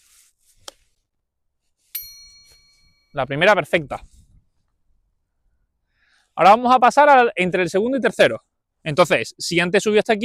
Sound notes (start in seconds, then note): 4.0 pause 1.5s